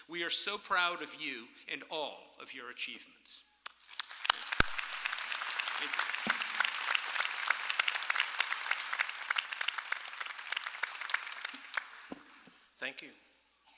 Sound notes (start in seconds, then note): 4.2 applause